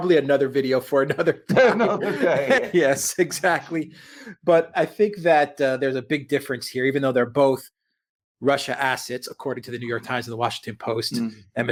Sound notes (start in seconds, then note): 1.1 both laughing